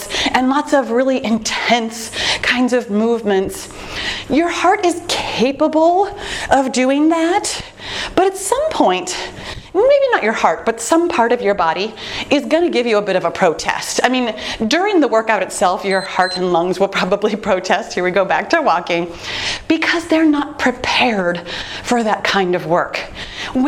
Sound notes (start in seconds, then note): 15.8 timer beeps